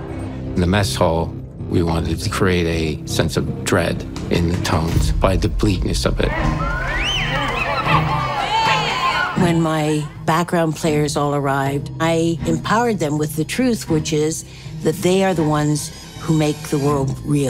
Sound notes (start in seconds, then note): 6.5 whistling, whooping